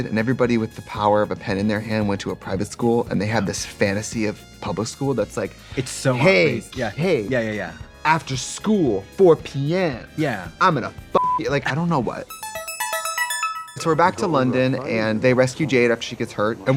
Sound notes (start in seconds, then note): 12.3 beeping; 12.3 bright electronic music